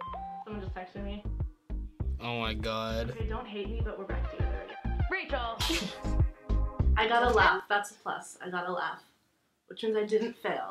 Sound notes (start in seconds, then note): 0.4 text alert; 5.6 snickers